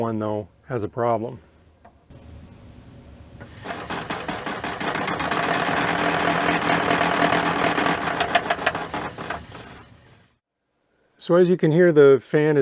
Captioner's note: loud rattling sound